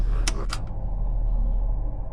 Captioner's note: tense music; button clicks